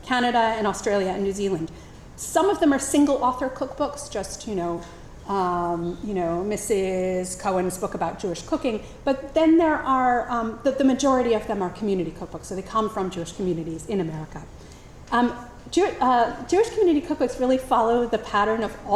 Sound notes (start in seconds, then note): none